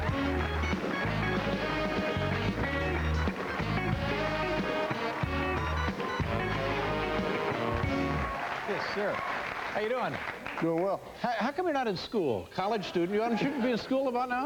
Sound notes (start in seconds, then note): 0.0 band playing; 0.0 cheers and applause